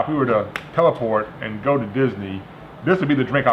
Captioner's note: snaps